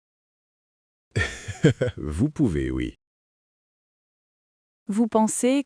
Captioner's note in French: rire